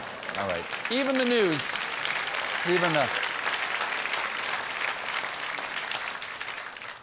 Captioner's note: applause